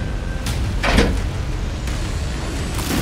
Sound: intense music; door shuts

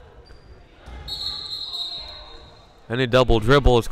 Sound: whistle blowing

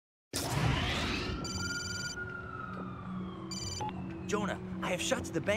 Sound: phone rings

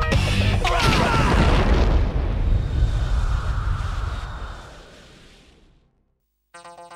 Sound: ship explodes

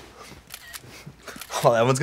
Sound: camera snaps

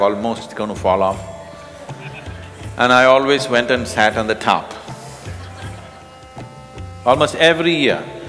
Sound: laughter

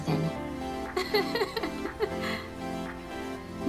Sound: laughs

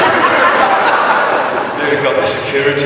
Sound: audience laughs

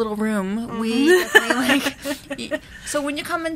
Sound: laughs

